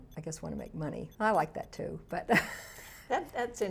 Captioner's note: laughs